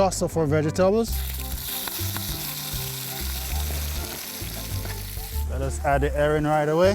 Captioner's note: sizzling